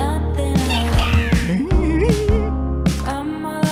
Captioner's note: excited hum